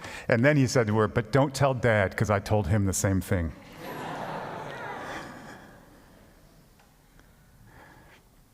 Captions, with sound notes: And then he said to her, "But don't tell dad because I told him the same thing." (congregation laughs)